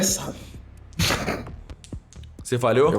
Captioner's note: laugh